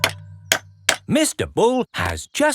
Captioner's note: clanking